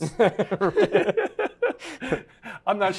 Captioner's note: both laugh